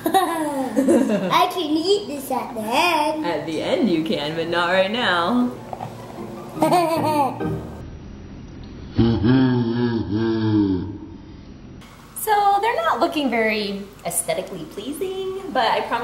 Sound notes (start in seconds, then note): 0.0 laughing; 6.5 laughing; 8.8 slo-mo laughing